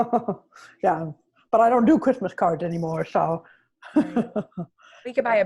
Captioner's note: chuckles; chuckles